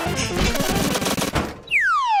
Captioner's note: loud clanging; falling sound